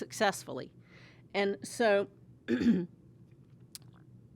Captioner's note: cough